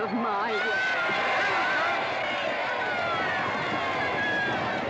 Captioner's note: crowd cheering; hooves pounding